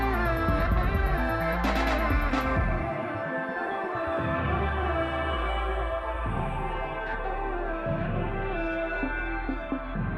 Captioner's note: humming